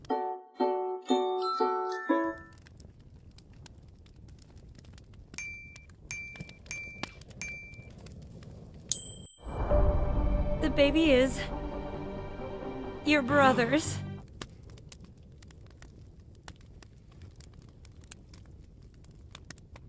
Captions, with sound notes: [happy music] It's simple. Just make sure your captions are [ping] [ping] [ping] [ping] [ding] Dude. Spoilers. There are programs you can use.